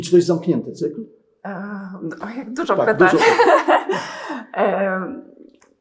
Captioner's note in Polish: śmiech